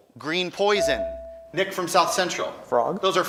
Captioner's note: buzzer chimes